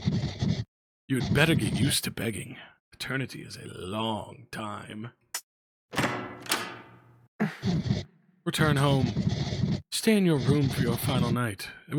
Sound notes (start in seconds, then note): 5.9 door clicks open